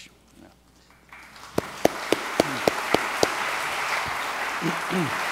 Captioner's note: audience applauds